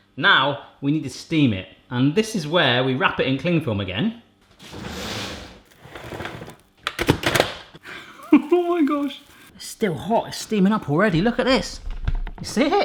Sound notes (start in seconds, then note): 4.6 cupboard whirring; 6.9 banging; 7.9 laughing